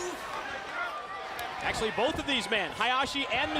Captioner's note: crowd chatter